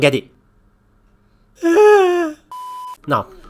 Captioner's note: cries